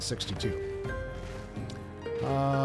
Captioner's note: bell rings